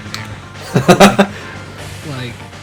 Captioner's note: laughs